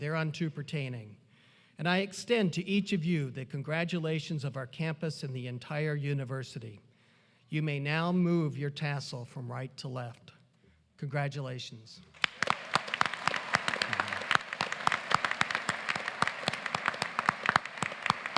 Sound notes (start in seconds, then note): 12.0 applause